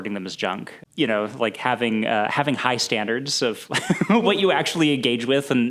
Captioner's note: laughs